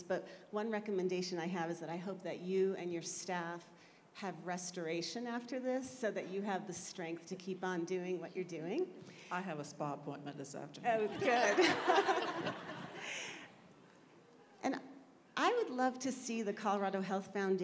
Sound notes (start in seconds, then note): 13.7 laughter